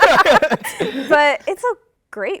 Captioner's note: laughter